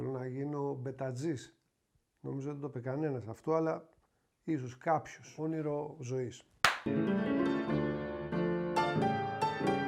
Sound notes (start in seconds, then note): 6.6 clap